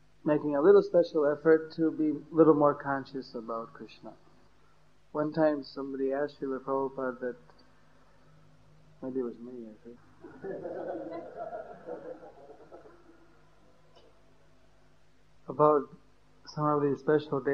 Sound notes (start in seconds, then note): 13.0 laughter